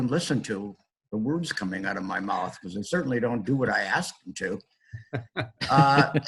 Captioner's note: laughter